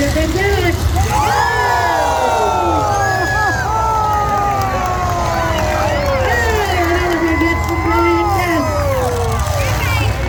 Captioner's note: crowd yells; crowd claps